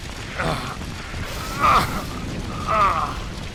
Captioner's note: more straining